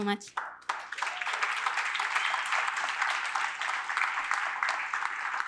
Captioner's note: applause